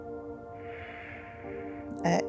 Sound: exhales

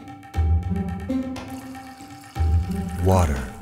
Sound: water pouring

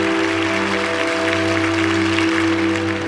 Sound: applause

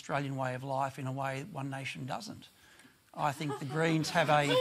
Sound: scattered laughter

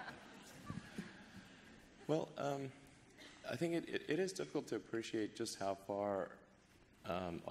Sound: laughter

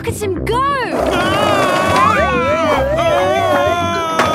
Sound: shouting

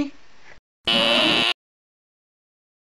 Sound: bzzt; roar

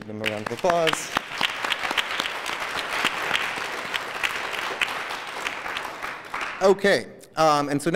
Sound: applause

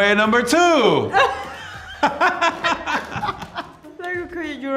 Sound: both laugh

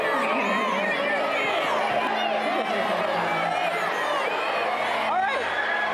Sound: kids yelling

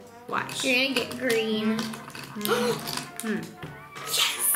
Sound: gasps

